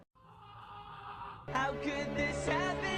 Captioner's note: yelling